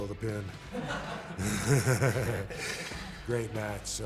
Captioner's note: group laughing